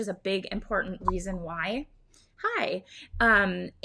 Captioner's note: notification pops